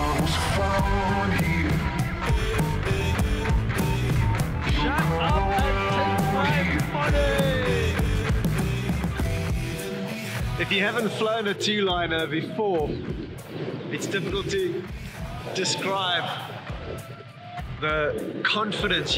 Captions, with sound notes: (shouting) Shut up and take my money. If you haven't flown a two liner before it's difficult to describe the confidence you get